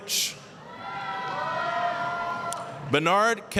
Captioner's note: applause, cheering